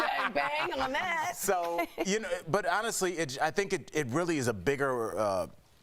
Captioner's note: laughter